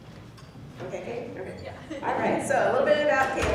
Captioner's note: laughs